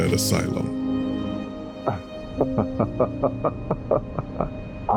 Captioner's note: laughs